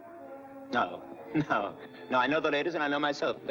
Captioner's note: laughing